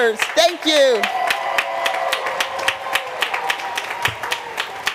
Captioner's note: applause